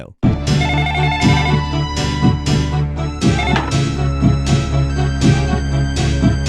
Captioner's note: dramatic music; phone ringing